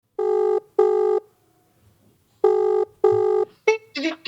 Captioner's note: phone rings